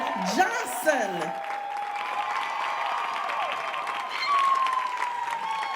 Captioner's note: audience cheering and applauding